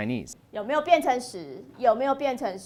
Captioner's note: speaking chinese